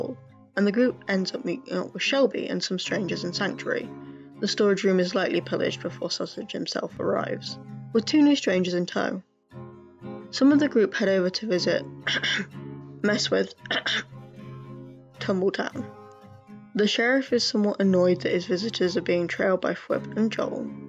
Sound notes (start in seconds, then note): 13.6 cough